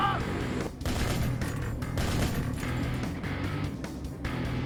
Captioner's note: gun fires